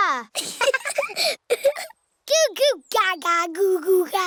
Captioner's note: both laughing